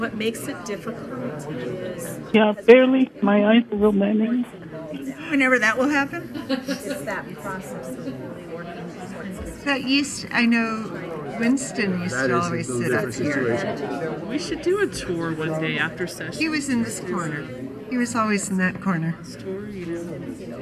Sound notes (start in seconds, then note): 6.3 chuckling